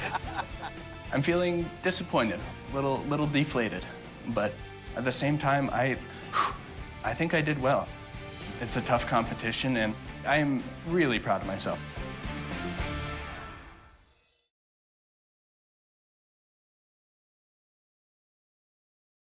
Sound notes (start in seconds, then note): 6.1 exhales sharply